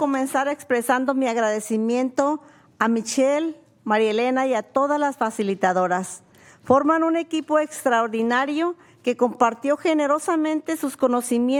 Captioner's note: speaking spanish